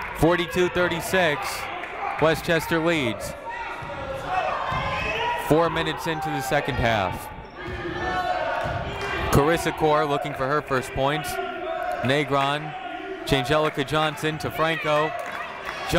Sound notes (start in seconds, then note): 4.2 people shouting in the crowd; 7.8 people shouting in the crowd